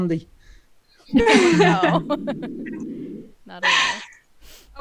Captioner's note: all laugh